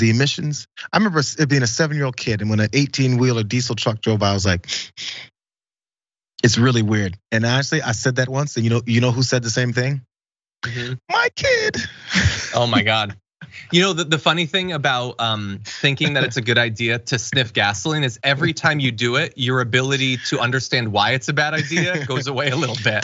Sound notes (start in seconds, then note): 10.6 laugh